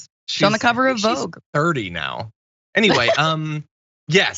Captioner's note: laugh